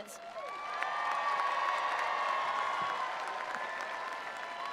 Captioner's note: attendees applauding